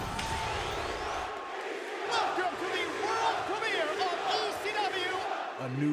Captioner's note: applause